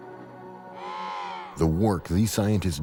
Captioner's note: penguins vocalizing